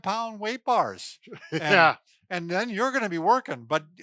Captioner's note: laughing